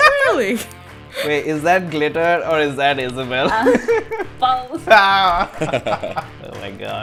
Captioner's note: laughter; laughter